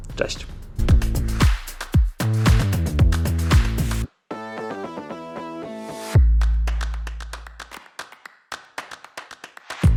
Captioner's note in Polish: Aplauz